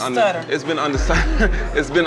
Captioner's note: chuckles